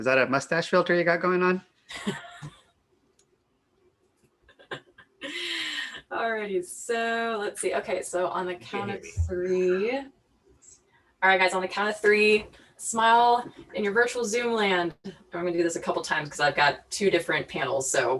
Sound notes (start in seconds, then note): 1.9 laughs